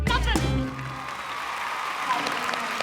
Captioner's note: applause